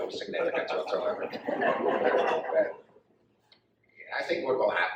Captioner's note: audience laughs